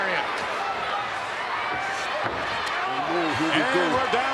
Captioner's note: crowd shout